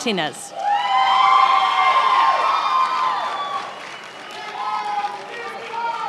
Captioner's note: attendees applauding and cheering